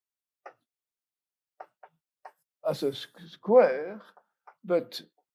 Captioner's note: chalk taps